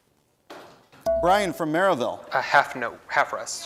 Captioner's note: bell rings